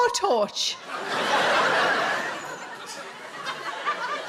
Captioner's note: audience laughs